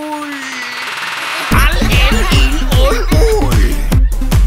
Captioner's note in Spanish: risas